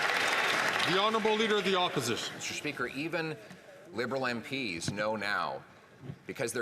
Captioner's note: some Applause